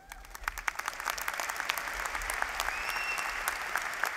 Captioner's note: applause